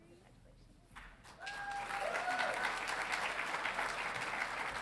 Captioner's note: audience cheering